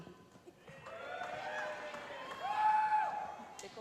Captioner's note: cheering